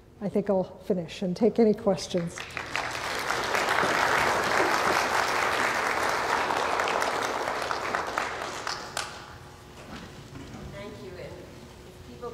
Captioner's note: applause